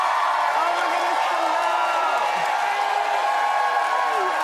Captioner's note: cheers and applause